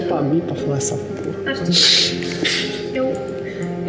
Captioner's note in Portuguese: risos